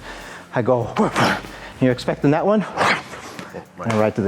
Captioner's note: grunts